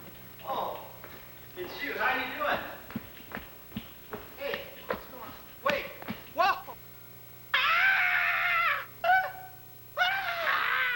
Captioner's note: scream